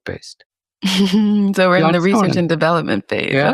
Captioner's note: chuckles